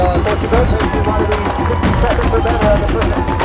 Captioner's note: cheers